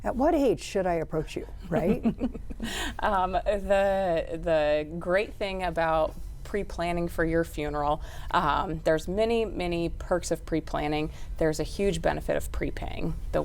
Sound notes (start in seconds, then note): 1.7 chuckles